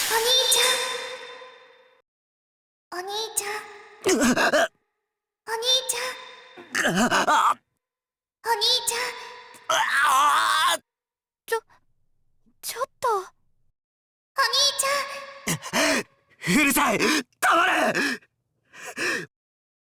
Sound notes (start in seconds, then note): 4.0 pained wince; 6.6 pained groan; 10.0 more pained groan